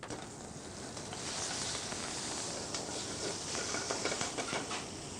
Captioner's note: sizzling